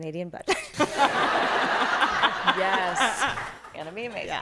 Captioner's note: laughter